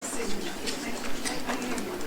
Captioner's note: indistinct conversations